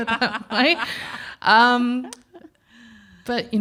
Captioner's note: both laugh